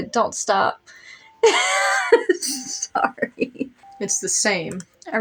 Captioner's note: laughing